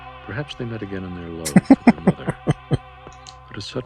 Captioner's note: chuckling